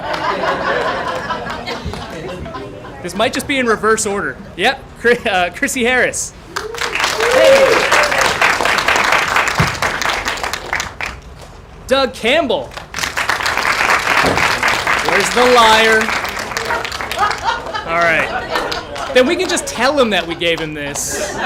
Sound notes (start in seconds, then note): 0.0 applause; 0.0 laughter; 6.5 applause; 12.7 applause